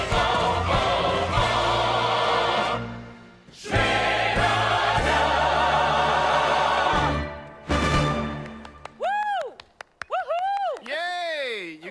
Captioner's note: applause